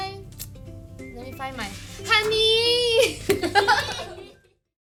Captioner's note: laughs